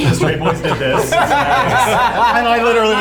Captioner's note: laughs